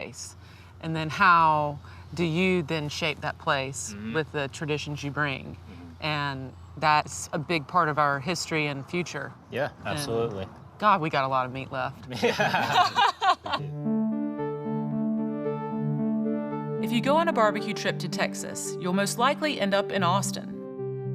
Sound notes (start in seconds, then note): 12.1 laughing; 13.6 ambient music